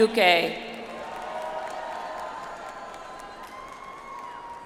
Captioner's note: audience applauds